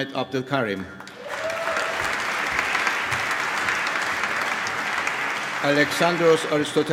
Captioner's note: applause